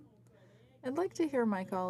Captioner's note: speaking French